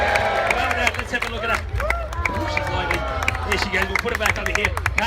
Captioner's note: crowd cheers and applauds; crowd goes "Aaahhh"